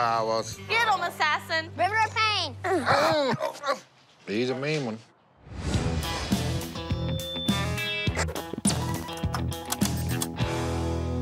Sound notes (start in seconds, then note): 2.6 groaning; 6.3 feedback; 8.0 chirps; 9.0 clicking